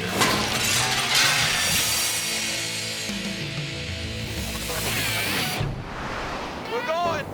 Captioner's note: glass shatters; upbeat dramatic music